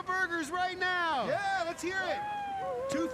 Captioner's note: cheering